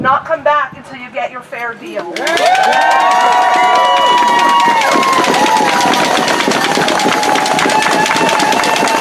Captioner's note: applause